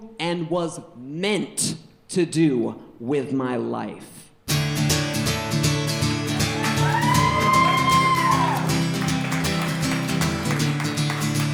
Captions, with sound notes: and was meant to do with my life. (guitar strumming) (audience cheering)